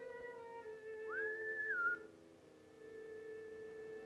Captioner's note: whistles; slow violin music